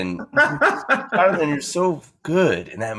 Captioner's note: laughing